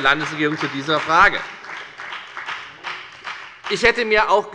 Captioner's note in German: Beifall bei der FDP und bei Abgeordneten der SPD